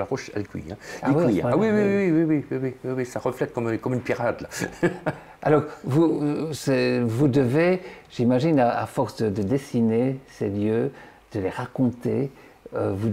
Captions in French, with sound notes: un oeuf sur la roche. Il cuit. Cela reflète comme une pierrade (rire). - Alors, vous devez, j'imagine... A force de dessiner ces lieux et de les raconter,